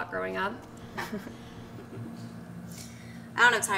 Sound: Lucy laughs

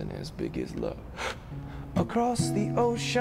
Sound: gasping

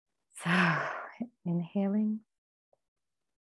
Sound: exhales

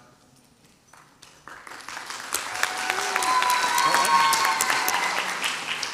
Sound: crowd cheers and applauds

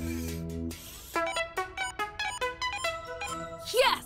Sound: fun music; charger beeping

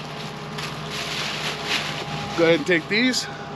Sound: plastic bas rustling

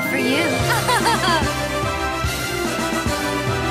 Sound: laughs

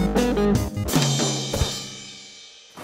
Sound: crash

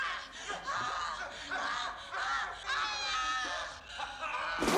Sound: gulping; moaning, Screaming

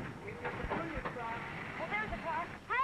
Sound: car revving

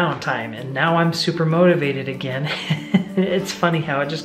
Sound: laughs

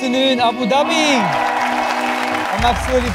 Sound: audience applauds

